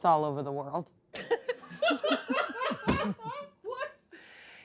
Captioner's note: everyone laughs